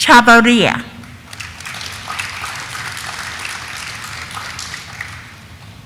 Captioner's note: audience applauding